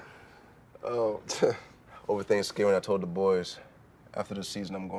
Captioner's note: scoffs